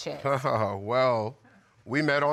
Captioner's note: laughs